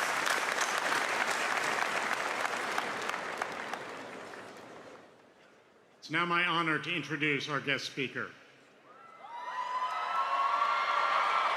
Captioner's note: applause